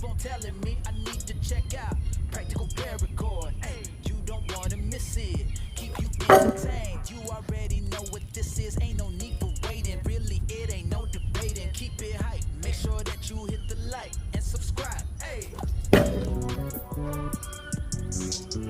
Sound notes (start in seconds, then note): 6.2 loud clang; 15.9 loud thud